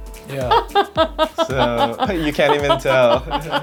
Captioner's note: laughing